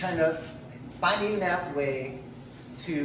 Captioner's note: none